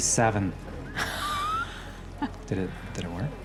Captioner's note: laughs